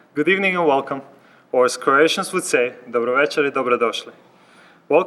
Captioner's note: speaks in Croatian